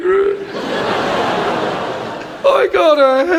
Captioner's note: audience laughs